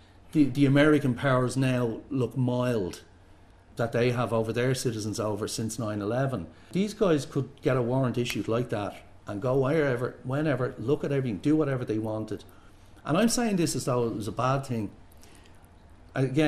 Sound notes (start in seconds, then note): 8.2 clicks fingers